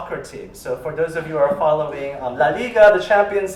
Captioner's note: spanish